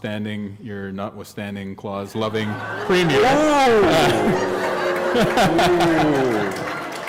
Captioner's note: laughter